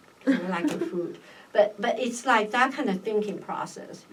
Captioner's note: laughs